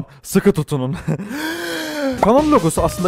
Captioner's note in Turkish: nefes alma